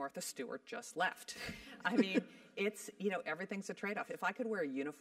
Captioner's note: laugh